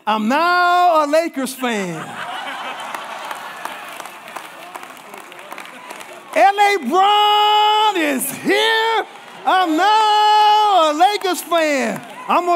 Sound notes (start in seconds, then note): 2.1 congregation laughing and applauding